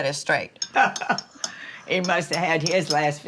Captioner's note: mama laughs